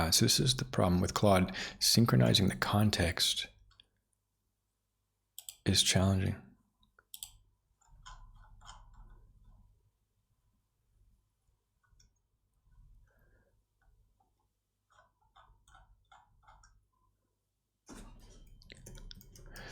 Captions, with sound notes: So this is the problem with Claude. Synchronizing the context is challenging. (Silence)